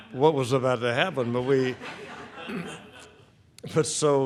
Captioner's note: audience laughing